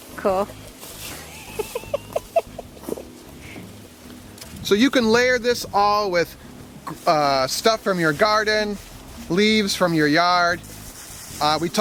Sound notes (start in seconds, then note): 1.2 laughing